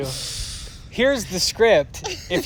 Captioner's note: laughter